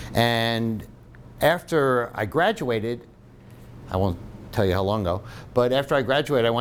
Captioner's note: none